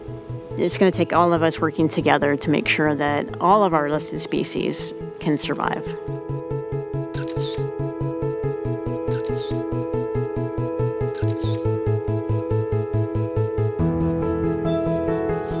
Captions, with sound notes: It's gonna take all of us working together to make sure that all of our listed species can survive. (camera clicking) (camera clicking) (camera clicking) (uplifting music)